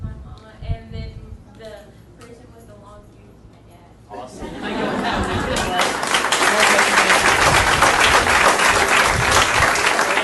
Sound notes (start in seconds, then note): 4.9 audience applauding